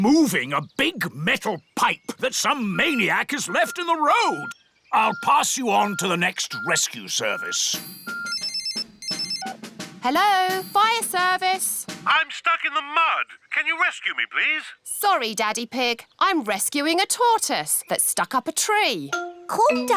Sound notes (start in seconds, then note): 7.8 phone rings